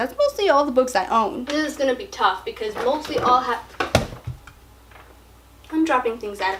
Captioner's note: candle falls